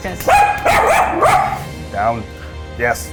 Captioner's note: dog barks